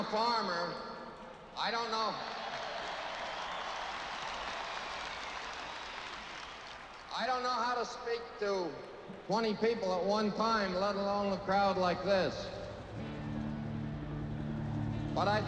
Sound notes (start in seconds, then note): 2.9 crowd cheering and applauding